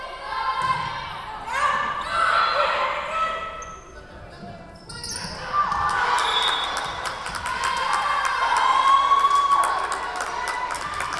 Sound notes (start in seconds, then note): 6.1 whistle blowing; 7.9 crowd cheering